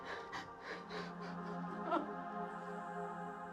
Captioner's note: crying